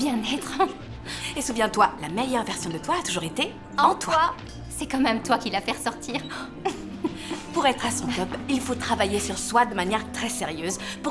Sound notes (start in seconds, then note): 0.4 laughing; 6.2 chuckling